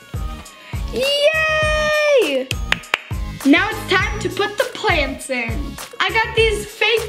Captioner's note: clapping